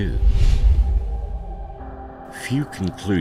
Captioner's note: air whooshing